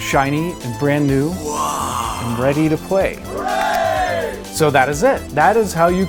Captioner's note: silly voice wow; group cheer hooray